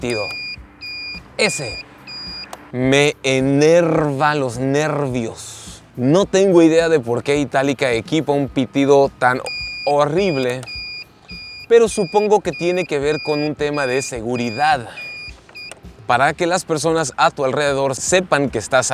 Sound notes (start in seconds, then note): 0.0 annoying beeping sound; 0.8 annoying beeping sound continues; 8.4 annoying beeping sound on the background